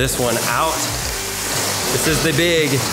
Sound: box dragging across the floor

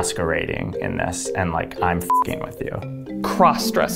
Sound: beep

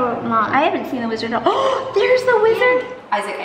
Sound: gasps

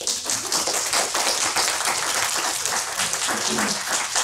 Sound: applause

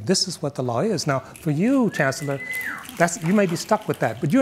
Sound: audience member whistles

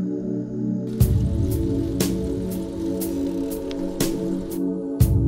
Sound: pedaling bicycle

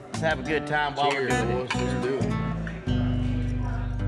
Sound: glasses clinking

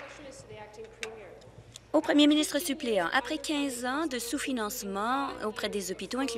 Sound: applause

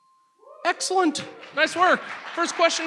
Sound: audience applauds

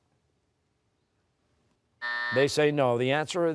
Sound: buzzer

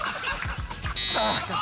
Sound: laughter; buzzer sounds

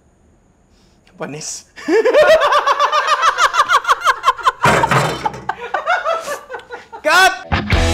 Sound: laughter; outro music

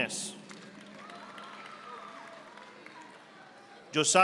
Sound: audience applauding

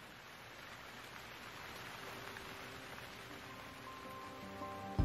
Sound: sound of Rain

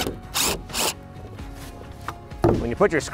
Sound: drill buzzing

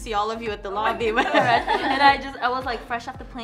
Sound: laughs

